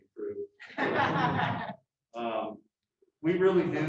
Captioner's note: laughter